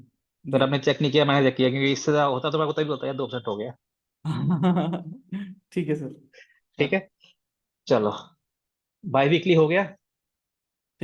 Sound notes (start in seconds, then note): 4.3 laughs